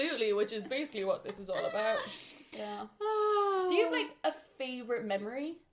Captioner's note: laughter